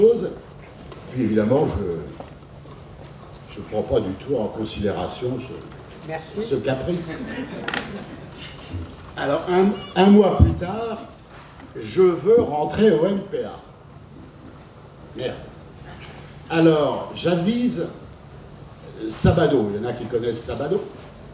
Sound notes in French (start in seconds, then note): 7.0 rires